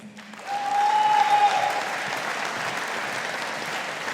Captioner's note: audience applauding